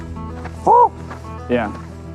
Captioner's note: Rick imitates bird calling